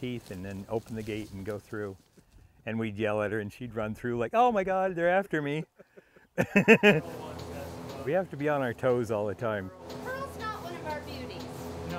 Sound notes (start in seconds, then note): 5.5 laughing